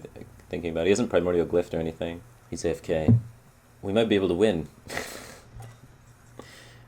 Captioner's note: chuckles